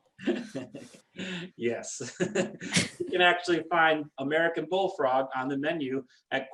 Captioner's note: laughs